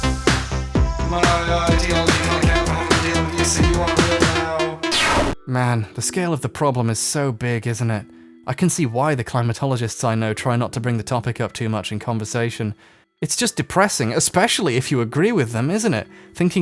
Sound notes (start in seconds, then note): 4.8 music scratches; 5.4 voiceover, somewhat despondent